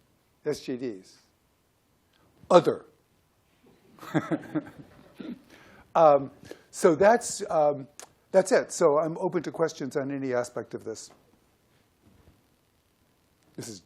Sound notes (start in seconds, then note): 3.9 laughs